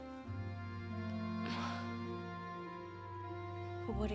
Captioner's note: sighs